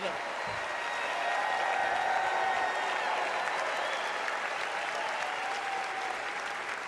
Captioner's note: cheers